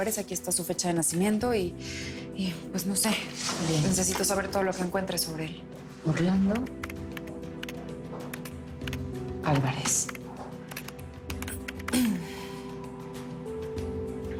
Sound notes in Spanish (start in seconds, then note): 8.7 Tecleo